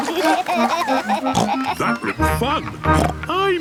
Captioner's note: snorts; giggling; snorts